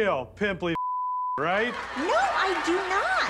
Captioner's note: audience laughs